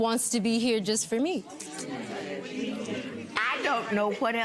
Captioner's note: audience grumbling